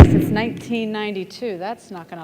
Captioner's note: thump